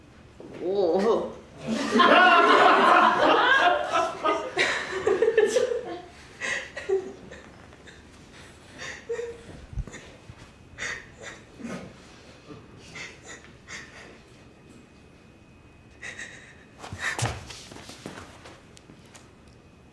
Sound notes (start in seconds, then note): 4.0 laughing; 7.5 crying